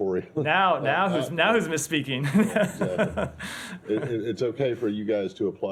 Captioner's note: laughter